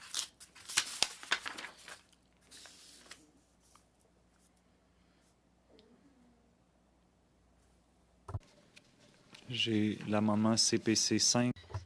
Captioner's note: speaking French